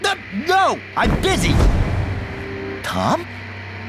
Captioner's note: thunderclap